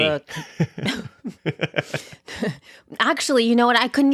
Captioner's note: laughing together